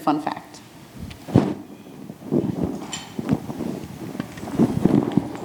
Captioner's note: microphone rustles